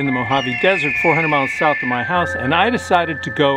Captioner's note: eagle cooing